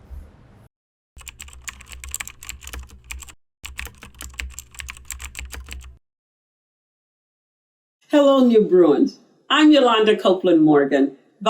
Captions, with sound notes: (keyboard clicking) - Hello, new Bruins, I'm Youlonda Copeland-Morgan,